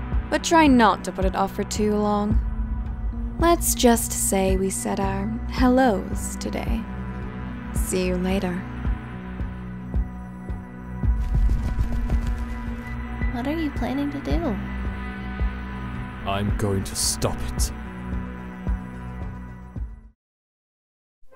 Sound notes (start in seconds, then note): 11.1 flapping Noises